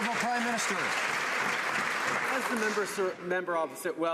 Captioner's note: some Applause